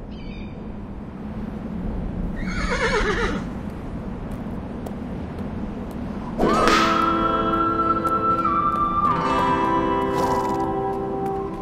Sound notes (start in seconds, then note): 0.2 hawk screeching; 2.4 horse whinnying; 6.3 country western music